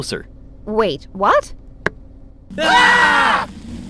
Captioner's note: Three screaming